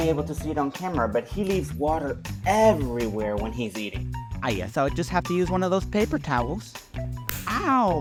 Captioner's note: slap